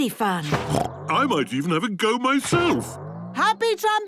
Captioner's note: snorts